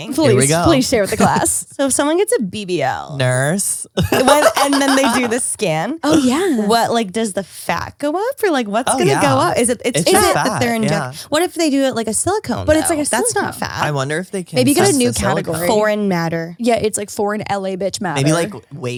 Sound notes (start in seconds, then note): 4.0 laughs